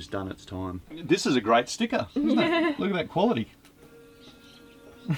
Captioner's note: they laugh